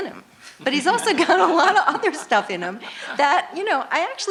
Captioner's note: laughter